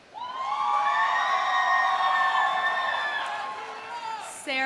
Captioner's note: audience cheering